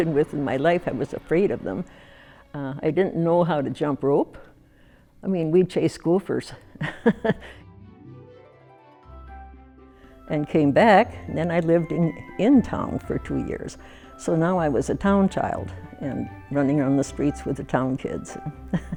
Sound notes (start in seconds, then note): 6.8 laughs; 8.0 soft music